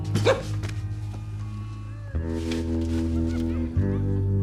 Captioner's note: laughing continues